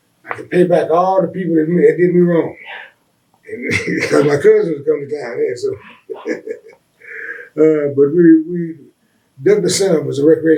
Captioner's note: laughs